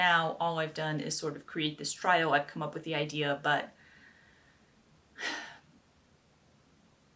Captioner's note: sigh